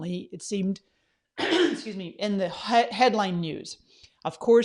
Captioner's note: coughs